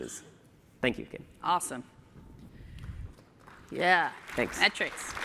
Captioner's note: applause